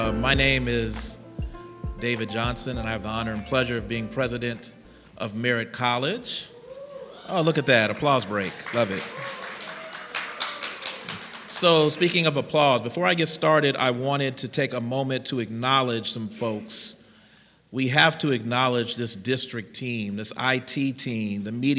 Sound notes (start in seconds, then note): 6.5 cheering; 9.3 applause and cheering